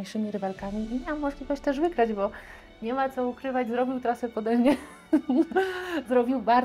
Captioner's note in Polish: śmiech